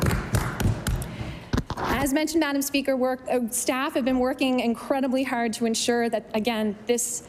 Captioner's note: applause